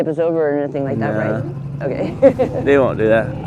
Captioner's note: laughs